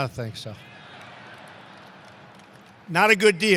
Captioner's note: laughter and applause